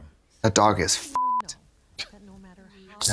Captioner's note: beep